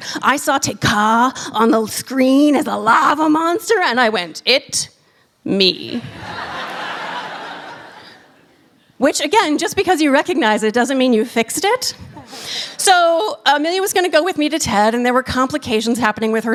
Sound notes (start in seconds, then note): 6.0 laughter